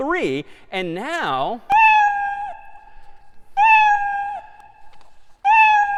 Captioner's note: میو زدن